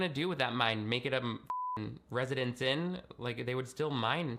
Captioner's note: beeping